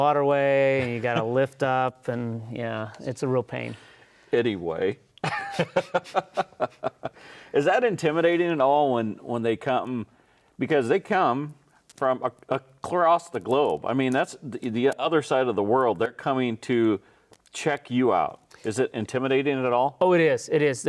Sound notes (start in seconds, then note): 5.2 laughs